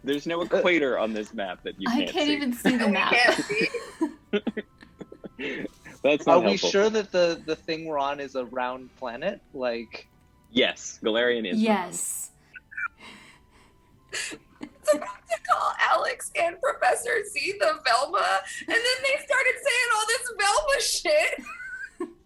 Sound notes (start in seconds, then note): 2.6 cast laugther